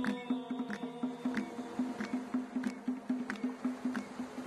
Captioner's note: rhythmic clapping